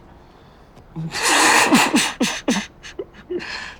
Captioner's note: laughing